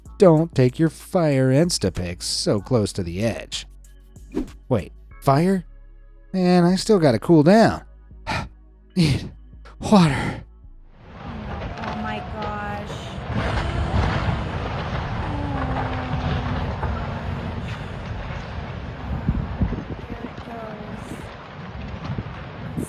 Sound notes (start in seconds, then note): 8.3 panting; 13.9 house crunches; 21.3 water gushing